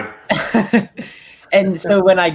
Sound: chuckles

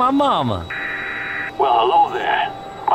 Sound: static sound from store speakers; voice from speakers in store

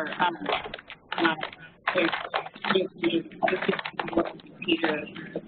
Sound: distorted electronic noises

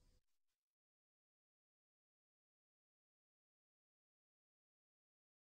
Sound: silence

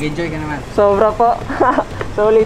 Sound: laughs

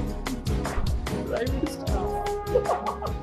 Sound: hysterical laugh

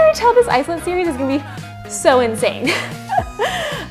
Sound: laughs

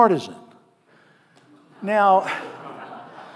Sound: audience laughing

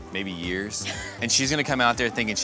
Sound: laughs

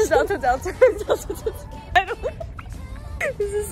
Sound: giggling

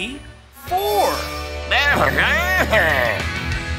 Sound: laughing

